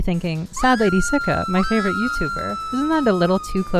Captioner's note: woman screaming; woman screaming again